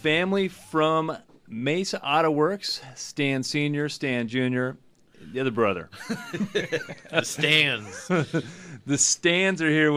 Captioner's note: both laugh